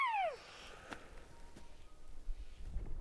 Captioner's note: elk bugling